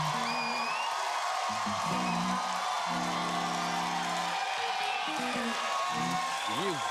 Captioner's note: cheers and applause